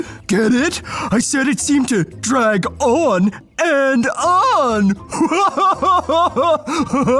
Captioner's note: laughs